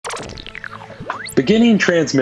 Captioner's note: radio squeaking